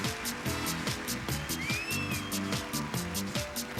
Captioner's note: sustained hoots and cheers